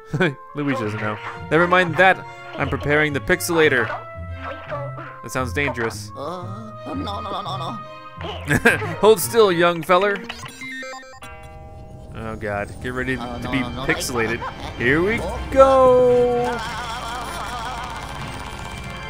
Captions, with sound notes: (laughter) Luigi doesn't know. That sounds dangerous. - No, no, no, no, no, no! - [Voiceover] Oh God, get ready to be pixelated!